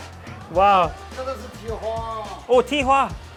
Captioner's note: speaks in a foreign language; man speaks in a foreign language; speaks in a foreign language